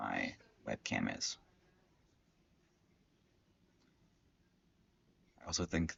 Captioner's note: silence